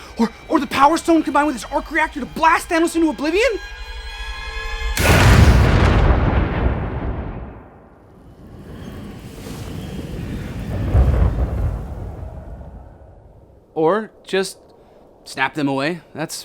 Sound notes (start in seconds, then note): 5.0 snap booming; 8.9 wind whooshing; 11.2 thunder crashing